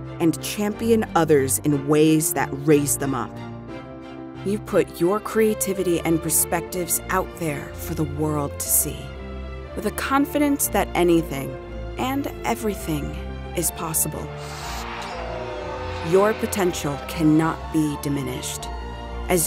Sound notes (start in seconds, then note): 14.4 crowd cheering